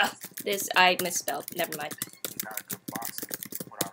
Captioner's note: typing sounds